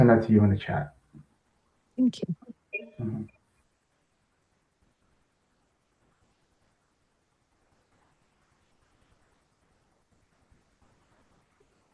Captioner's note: pause